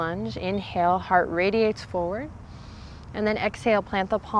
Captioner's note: takes deep breath